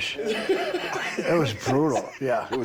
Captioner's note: Bron and Rick laughing